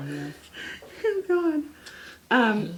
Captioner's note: laughs